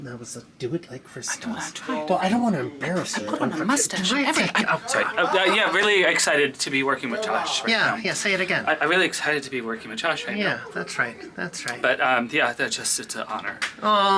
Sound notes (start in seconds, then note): 1.6 whispers